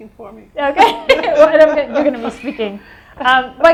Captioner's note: laughs